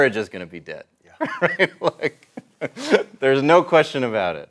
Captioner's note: laughs